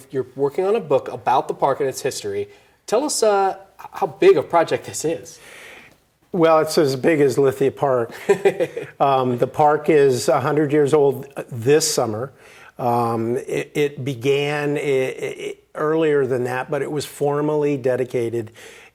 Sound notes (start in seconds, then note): 8.1 laughs